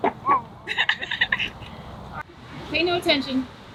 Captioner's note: both daughters laugh